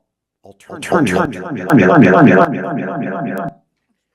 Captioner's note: mic reverb